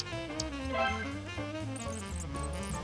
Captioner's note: generic 'success' sound effect